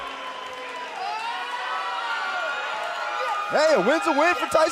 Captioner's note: cheers & applause